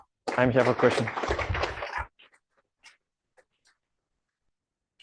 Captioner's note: applause